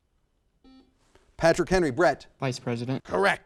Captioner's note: buzzer sounds